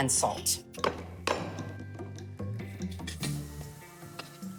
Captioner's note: pestle clanging